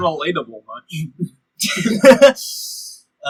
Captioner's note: laughter